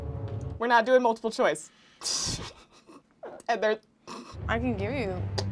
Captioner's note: laughs